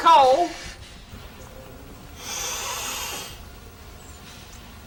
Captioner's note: sigh